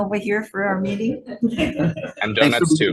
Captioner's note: senators laughs